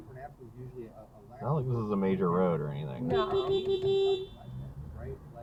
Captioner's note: beepbeepbeepbeepbeeeeep